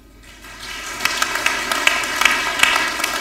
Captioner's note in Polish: oklaski